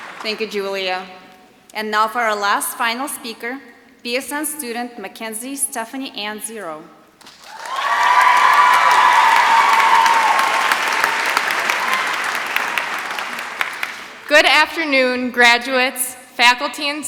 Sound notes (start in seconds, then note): 7.2 applause